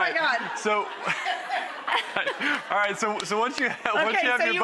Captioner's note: laughter